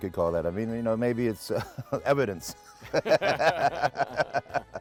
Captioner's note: laughs